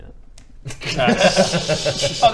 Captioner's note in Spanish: risas